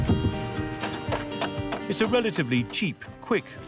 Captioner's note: hammer pounding; wood cracking